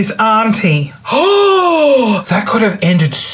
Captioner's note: gasps